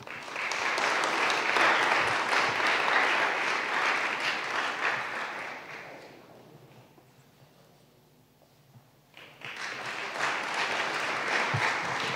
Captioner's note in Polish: oklaski